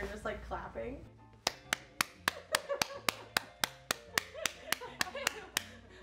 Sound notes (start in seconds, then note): 1.4 clapping hands; 1.7 crew laughing